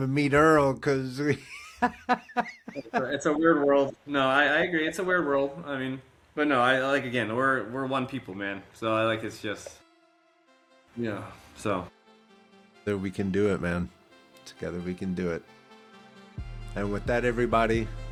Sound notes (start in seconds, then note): 1.3 both Laughing; 9.1 dramatic Music